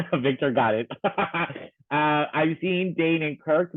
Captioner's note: laughing